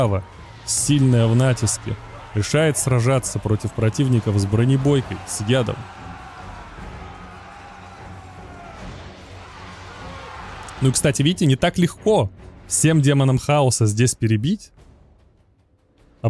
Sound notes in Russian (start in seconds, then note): 10.1 крик